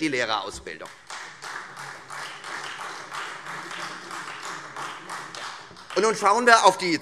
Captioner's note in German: Beifall Freie Demokraten und vereinzelt SPD